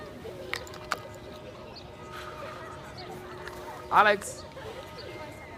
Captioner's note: bells tolling